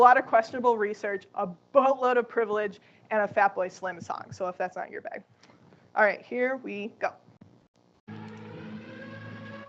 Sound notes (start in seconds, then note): 8.0 air-raid siren